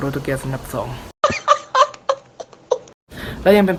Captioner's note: spanish laughing